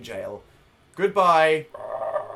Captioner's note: roars